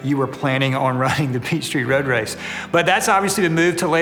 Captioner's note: chuckles